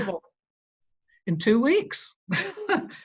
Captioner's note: chuckles